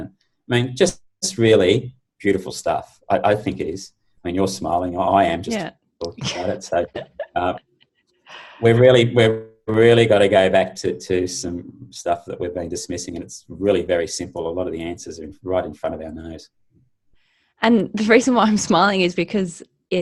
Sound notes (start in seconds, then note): 6.0 chuckles